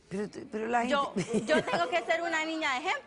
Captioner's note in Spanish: Risas